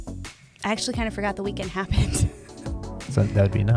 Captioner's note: chuckles